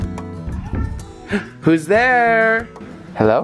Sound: gasps

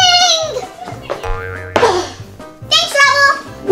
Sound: boing sound

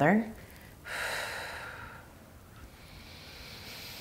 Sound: exhaling strongly; inhaling deeply

